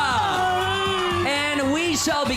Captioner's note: fake crying